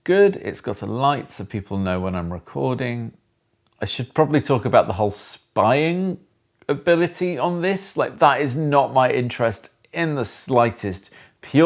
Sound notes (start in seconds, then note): none